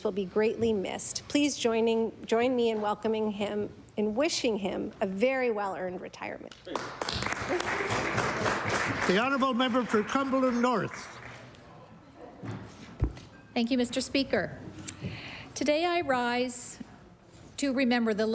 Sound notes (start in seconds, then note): 6.6 applause